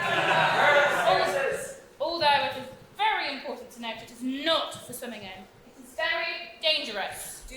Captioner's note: audience WOAH's